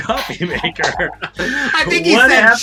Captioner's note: all laugh